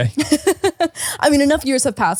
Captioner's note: laughing